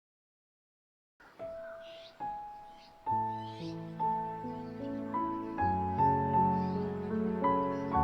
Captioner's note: wind